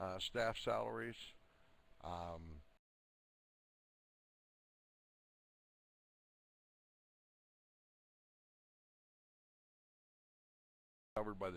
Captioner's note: audio drops